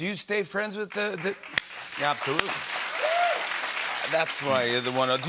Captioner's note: applause